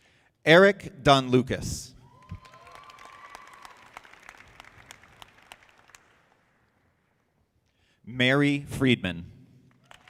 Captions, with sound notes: Erick Donlucas. (audience applauding) Mary Friedman.